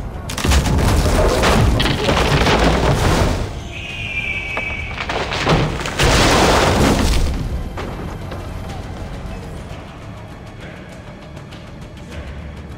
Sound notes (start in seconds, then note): 0.2 wood crumbling; 3.6 eagle screech